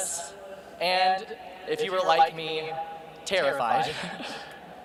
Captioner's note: laughs